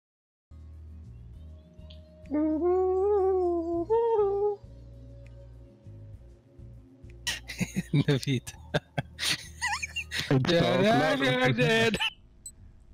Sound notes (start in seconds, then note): 2.9 mumbles theme song